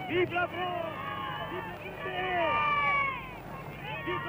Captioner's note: crowd cheers